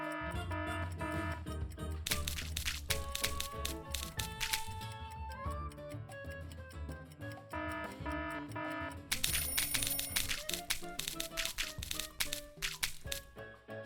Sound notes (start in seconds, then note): 0.2 alarm ringing; 2.0 paint splattering; 7.5 alarm ringing; 9.1 paint splattering and clock ringing